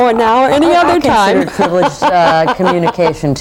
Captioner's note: laughing